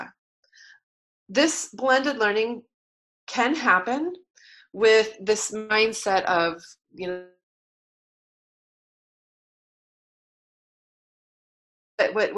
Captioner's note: silence